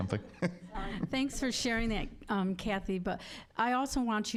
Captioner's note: laughing